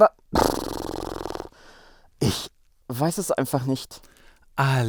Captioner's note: sigh